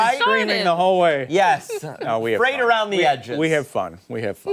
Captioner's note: laughter